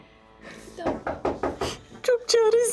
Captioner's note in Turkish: Kapı tıklama sesi